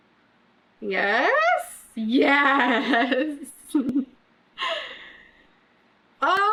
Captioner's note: laughs